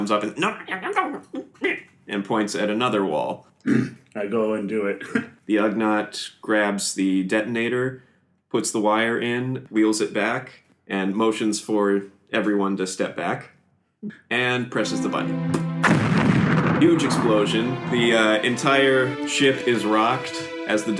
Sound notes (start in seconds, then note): 0.5 pig-like grunting; 3.8 affirmative grunt; 14.9 explosion sound